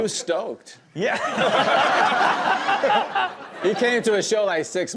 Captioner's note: everyone laughs